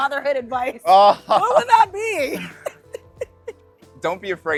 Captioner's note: chuckles